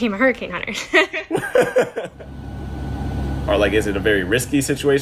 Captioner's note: laughing